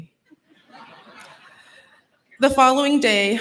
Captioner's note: laughter